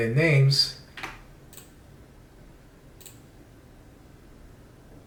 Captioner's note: computer mouse clicks